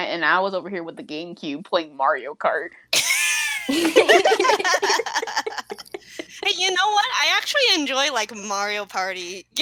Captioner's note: laughing